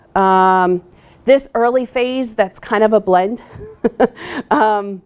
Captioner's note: laughing